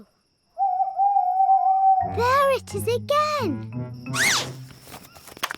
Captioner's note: owl hoots